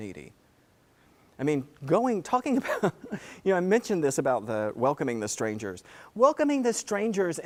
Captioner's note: laugh